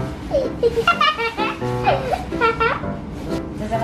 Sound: laughing

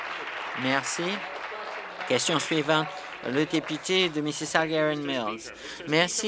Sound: applause

